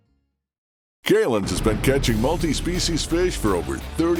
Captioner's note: voiceover